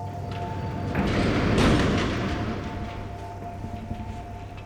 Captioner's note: door clanks